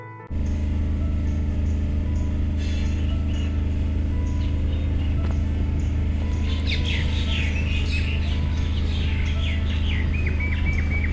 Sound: bird call

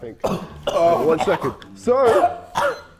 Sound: KSI coughing

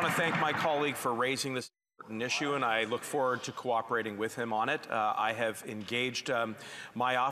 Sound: applause

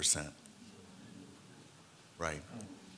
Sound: crowd murmur

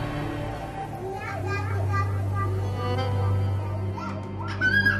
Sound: baby talk

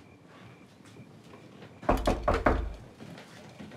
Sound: knocking on door

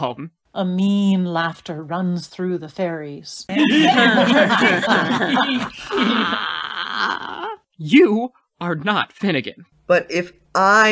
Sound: A mean laughter runs through the faeries

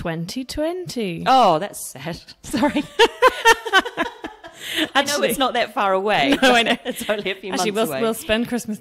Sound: laughs

